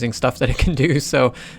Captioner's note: laughs